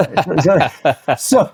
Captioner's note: laughing